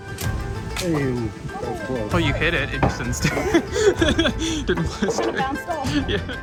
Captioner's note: laughs